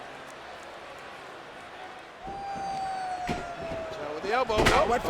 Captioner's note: applause